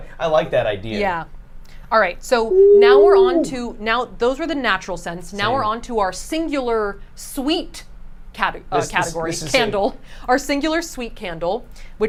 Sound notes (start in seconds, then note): 2.5 hoots